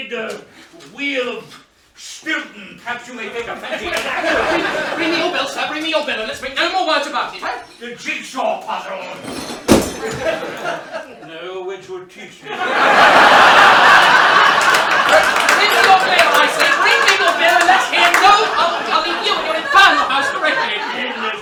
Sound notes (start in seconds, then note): 9.2 smashing; 12.1 laughter